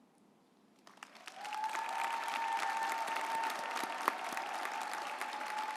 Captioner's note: group applauding